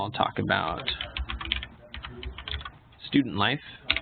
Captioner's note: keyboard clicking